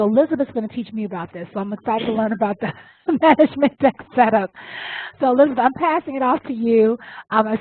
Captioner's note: laugh